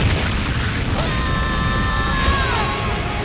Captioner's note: screaming